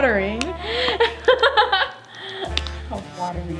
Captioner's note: laughs